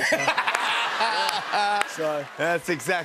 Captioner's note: laughter